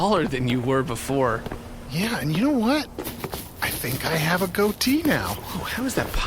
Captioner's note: beard-scratching noises